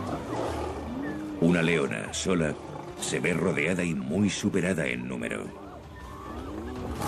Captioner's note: moan